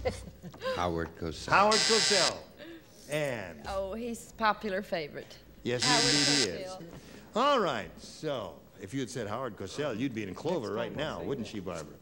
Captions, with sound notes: -Howard Cosell. -Howard Cosell. (buzzer) -And. -Oh, he's a popular favorite. Howard Cosell. -Yes, indeed, he is. (buzzer) -All right, so, if you'd said Howard Cosell you'd be in clover right now, wouldn't she, Barbara?